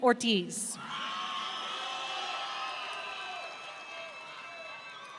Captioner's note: audience cheering